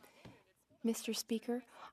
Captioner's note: speaking French